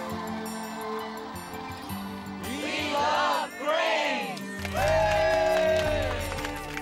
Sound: cheering

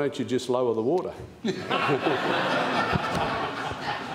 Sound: laughter

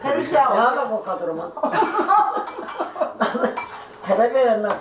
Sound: laughing

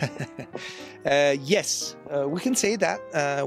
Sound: laughter

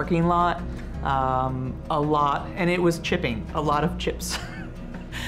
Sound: laughs

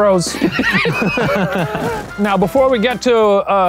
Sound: all laughing

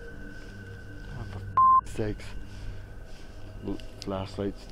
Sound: beep

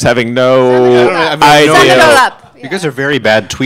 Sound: group chatting

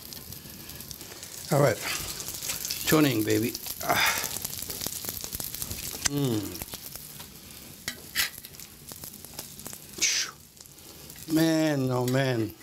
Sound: SIZZLING</b> <b>AND SCRAPING

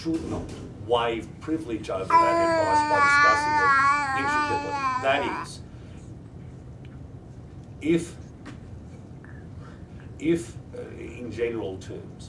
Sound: baby gurgles

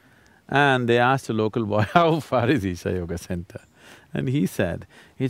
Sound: laughs

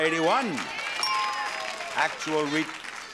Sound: audience clapping; bell chimes

